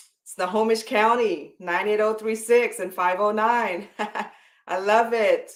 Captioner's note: chuckles